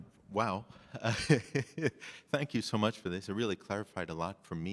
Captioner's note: chuckles